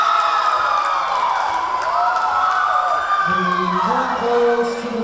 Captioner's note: cheering; clapping